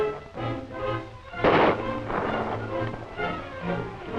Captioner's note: gunshot